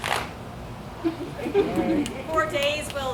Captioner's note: audience laughs